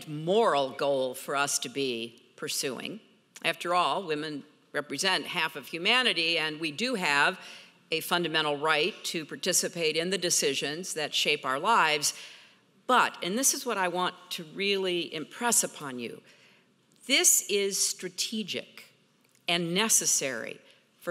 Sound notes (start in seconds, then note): none